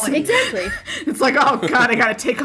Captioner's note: laughter